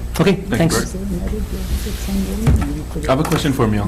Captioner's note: woman mumbling